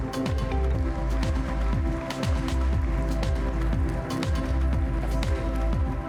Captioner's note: applause